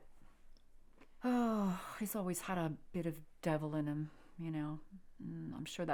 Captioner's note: sighs